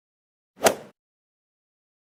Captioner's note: swoosh